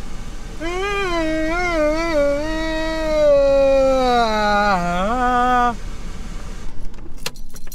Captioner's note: yawn